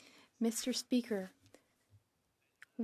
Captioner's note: speaking French